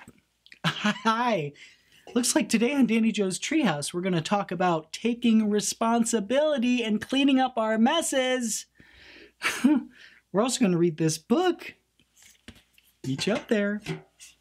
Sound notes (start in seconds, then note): 0.6 laughs; 5.1 raises voice; 9.4 tense laugh